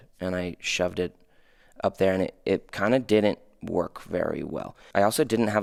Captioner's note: none